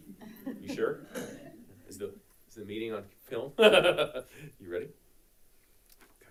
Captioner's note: laughs